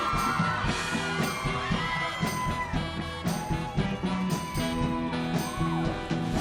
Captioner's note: cheers and applause